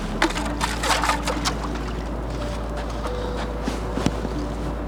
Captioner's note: water splashing; hubcap scrapping